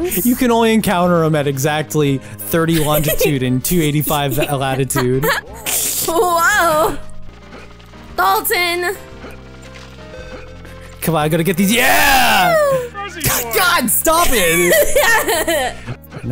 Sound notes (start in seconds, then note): 5.5 buzz in-game; 14.2 laughing